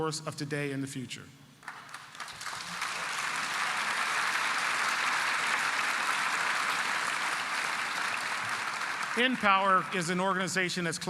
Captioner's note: applause